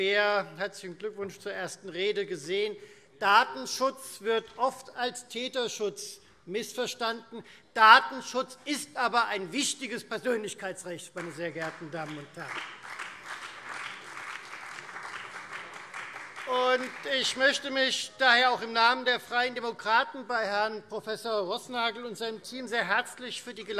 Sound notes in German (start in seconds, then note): 11.1 Beifall Freie Demokraten und BÜNDNIS 90/DIE GRÜNEN